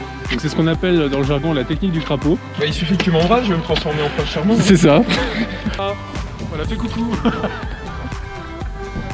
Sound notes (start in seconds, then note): 5.4 laugh